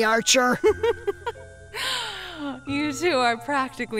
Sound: chuckling

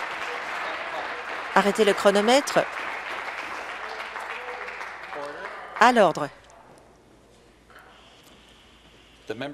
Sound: applause

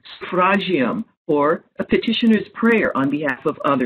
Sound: speaking foreign language

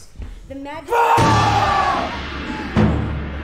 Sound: scream

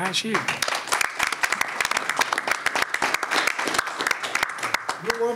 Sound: applause

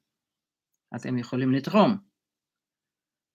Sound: in Hebrew

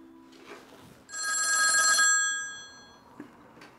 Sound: phone Rings

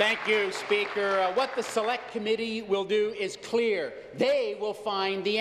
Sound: applause

